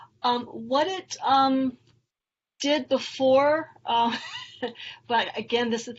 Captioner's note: laughs